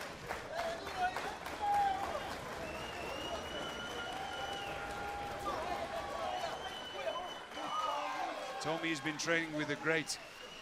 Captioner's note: crowd cheering